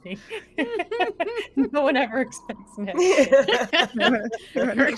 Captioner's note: laughing